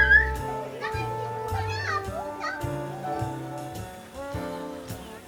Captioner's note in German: haha